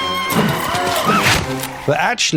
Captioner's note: tongue trill